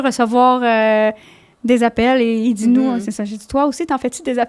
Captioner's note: in french